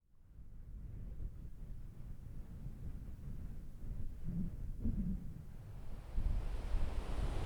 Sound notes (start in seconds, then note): 3.4 wind whooshing